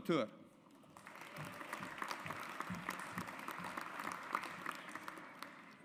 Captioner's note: audience applauds